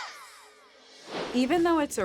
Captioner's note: air swish